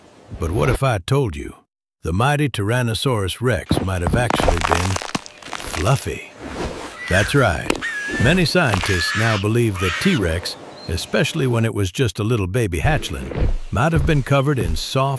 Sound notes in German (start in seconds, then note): 4.0 Rascheln; 7.8 Brüllen